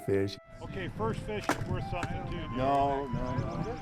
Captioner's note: voiceover